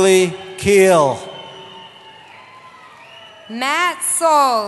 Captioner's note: cheering